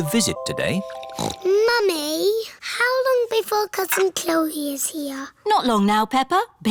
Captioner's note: snorts